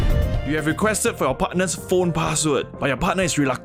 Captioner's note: narrating sexily